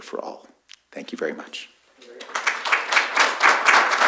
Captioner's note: applause